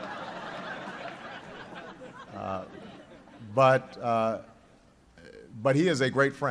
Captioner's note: laughter